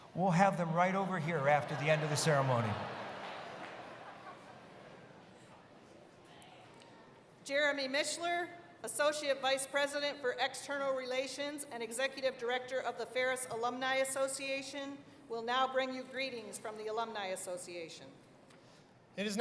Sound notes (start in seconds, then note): 1.3 laughter